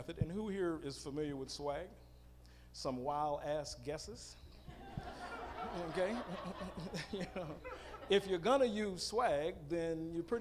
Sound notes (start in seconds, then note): 4.8 audience laughing